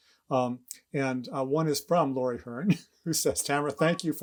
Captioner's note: chuckles